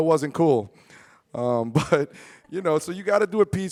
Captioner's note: chuckles